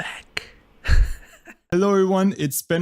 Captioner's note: giggles